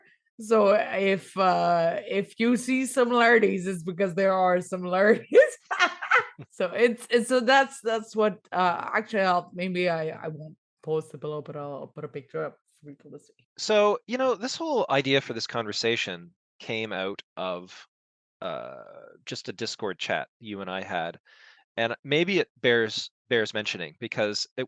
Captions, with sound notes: So if you see similarities, its because there are similarities. (laughs) maybe I won't post below, but I'll put a picture up... So, you know, this whole idea for this conversation came out of just a discord chat you and I had and maybe it bears mentioning